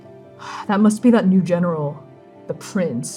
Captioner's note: sighing